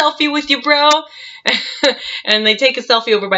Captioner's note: laughs